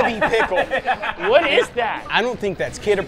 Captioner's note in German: lacht